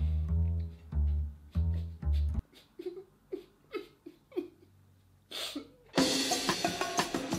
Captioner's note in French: Pleurs